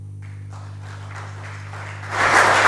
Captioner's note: applause